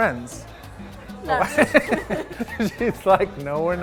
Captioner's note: laughing